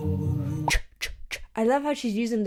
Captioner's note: mimicking a "ch" sound